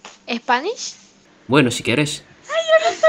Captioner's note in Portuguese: espanhol